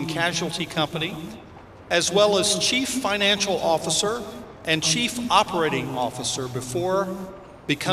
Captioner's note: none